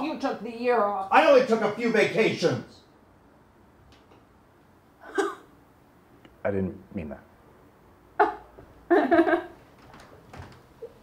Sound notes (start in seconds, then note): 5.0 scoffs; 8.9 Becca laughs